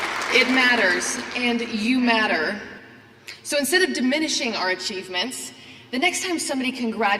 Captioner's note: applause